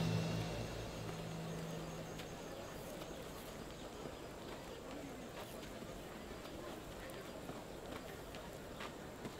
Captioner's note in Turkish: Kuş cıvıltısı sesleri